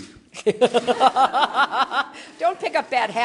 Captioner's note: laughter